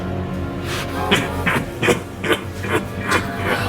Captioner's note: demonic laughter